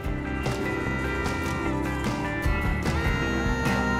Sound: honking

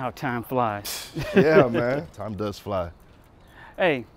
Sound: chuckling

